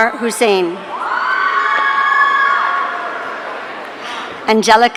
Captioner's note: audience cheering